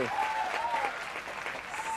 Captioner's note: crowd cheering